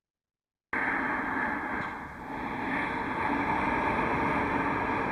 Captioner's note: breathing sounds